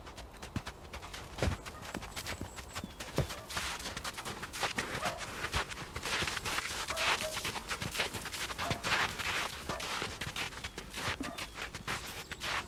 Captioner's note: hooves crunching